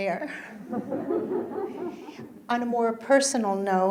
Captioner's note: audience laughing